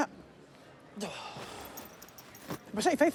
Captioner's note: sighs